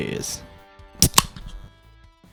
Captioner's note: tasty beverage opening